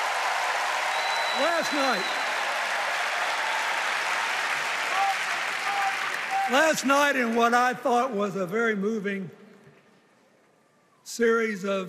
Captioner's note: cheers and applause